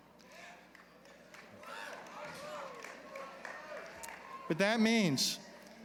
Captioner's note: applause